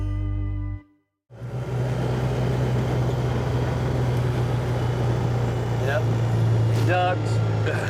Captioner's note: engine noise